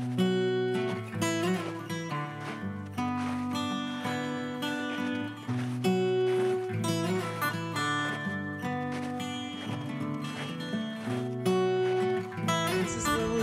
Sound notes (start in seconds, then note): 0.2 soft guitar music; 4.8 snow crunching